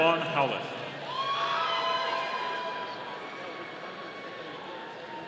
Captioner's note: audience cheering